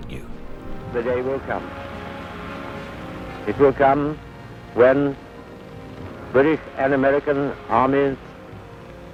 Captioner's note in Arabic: صوت إنجليزي منطوق